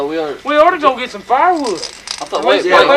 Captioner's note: rattle noises